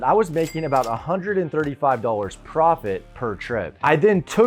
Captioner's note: cash register dings